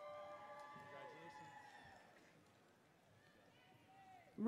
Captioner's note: audience cheers